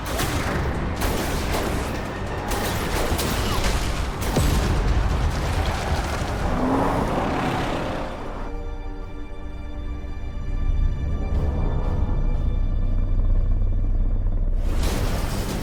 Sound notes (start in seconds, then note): 0.0 lasers blasting; 0.3 dramatic music; 11.3 distant helicopter